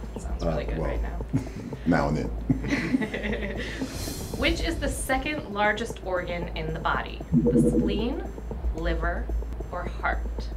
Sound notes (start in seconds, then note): 2.6 laughing